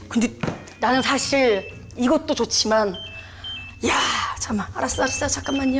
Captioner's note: the notification sound keeps ringing